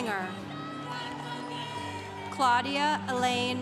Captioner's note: congregation cheering